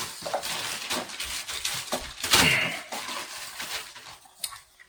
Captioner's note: unwrapping package